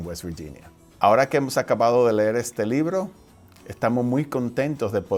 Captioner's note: speaking foreign language